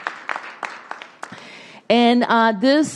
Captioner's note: applause